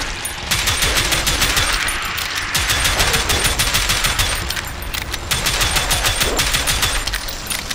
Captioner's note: clicking Intensifies